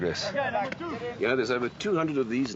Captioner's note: chatting and bat cracking